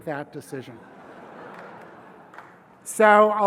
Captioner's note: laugh